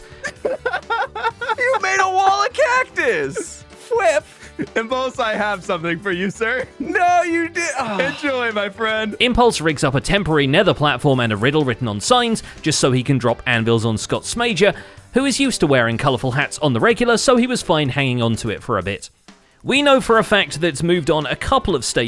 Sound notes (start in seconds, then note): 0.0 laughing; 7.8 defeated sigh